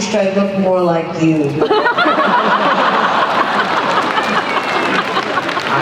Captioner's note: laughter